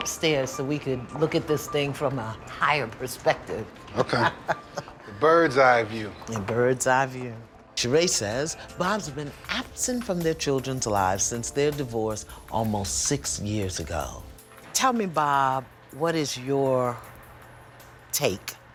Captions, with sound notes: SO WE COULD LOOK AT THIS THING FROM A HIGHER PERSPECTIVE. [ LAUGHS ] OKAY. A BIRD'S-EYE VIEW. A BIRD'S-EYE VIEW. SHEREé SAYS BOB'S BEEN ABSENT FROM THEIR CHILDREN'S LIVES SINCE THEIR DIVORCE ALMOST SIX YEARS AGO. TELL ME, BOB, WHAT IS YOUR TAKE